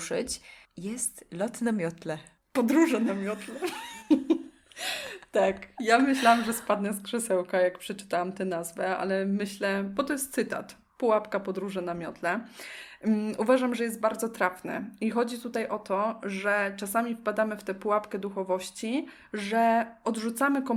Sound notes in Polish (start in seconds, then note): 3.1 śmiech